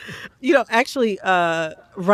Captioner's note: laughter